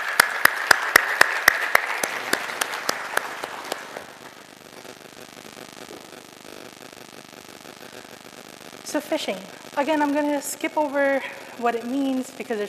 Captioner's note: applause